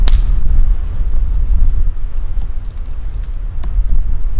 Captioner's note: axe thudding